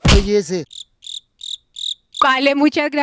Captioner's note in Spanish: Sonido de grillos